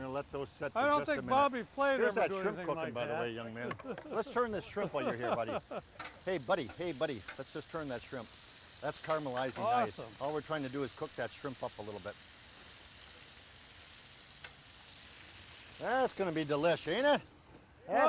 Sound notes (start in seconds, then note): 3.8 chuckles; 11.6 grill sizzling